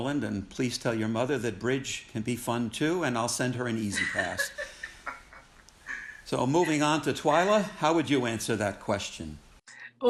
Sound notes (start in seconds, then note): 3.7 participants laughing